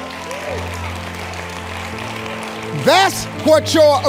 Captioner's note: audience applauds